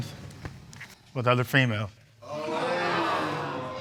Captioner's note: audience exclaims